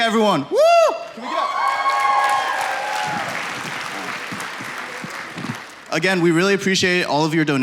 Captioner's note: applause